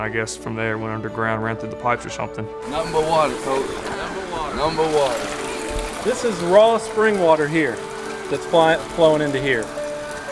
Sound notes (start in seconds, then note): 4.2 voiceover